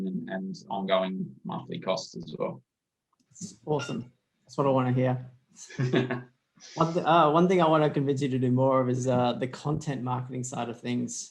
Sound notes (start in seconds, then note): 5.7 laughs